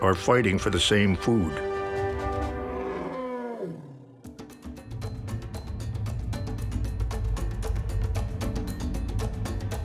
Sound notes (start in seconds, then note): 2.5 elephant groans; 4.3 upbeat instrumental